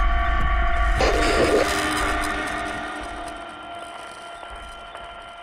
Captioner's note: tone buzzing